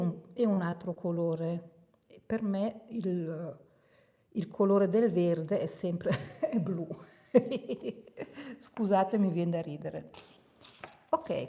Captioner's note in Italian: risate